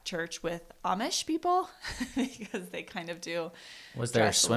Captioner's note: laughs